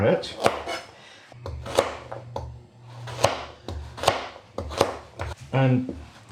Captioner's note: chop chop chop chop